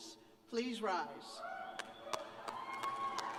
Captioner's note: cheers